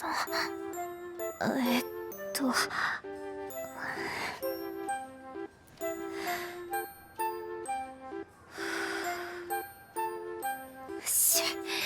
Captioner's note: deep breath; exhale